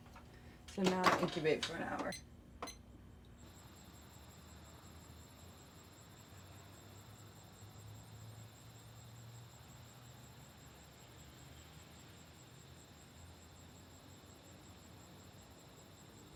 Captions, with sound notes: So now, incubate for an hour. (device beeping) (crickets chirping)